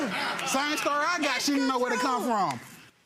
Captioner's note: audience laughs